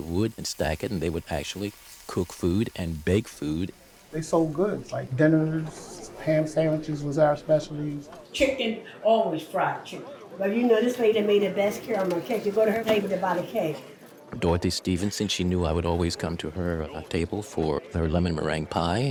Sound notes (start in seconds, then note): 4.1 crowd buzzing